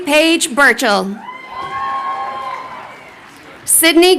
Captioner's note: crowd cheering